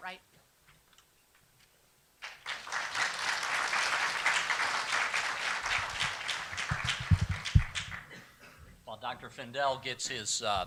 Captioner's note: applauses